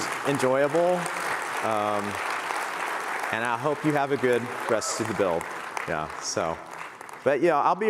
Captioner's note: applause